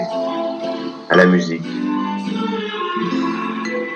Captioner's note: voiceover of man speaking in french